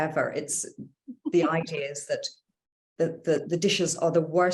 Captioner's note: laughs